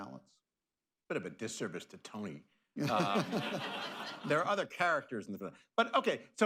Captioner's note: laughter